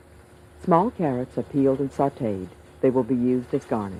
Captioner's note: voiceover